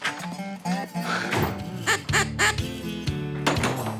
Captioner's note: duck call